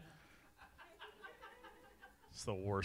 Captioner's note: audience laughing